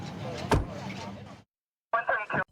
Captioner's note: car door closing